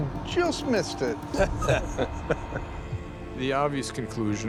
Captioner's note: laughing